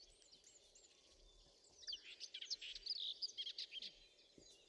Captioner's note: birdsong